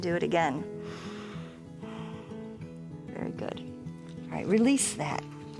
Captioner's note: inhales and exhales